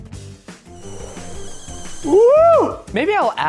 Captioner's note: steaming sound